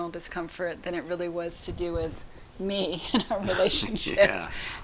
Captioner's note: laughs